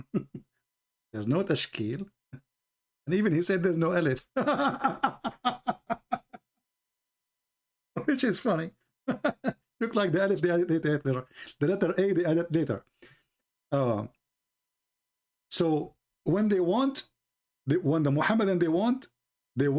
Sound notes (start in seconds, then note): 4.3 Ketawa